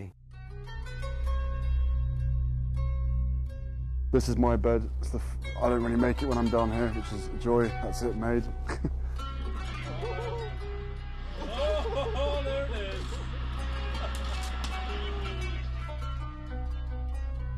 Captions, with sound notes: (slow instrumental music) - This is my bed, I don't even make it when I'm done here, just throw it, that's it, made. (laughs) (slow instrumental music) - [Voiceover] Oh there it is. (slow instrumental music)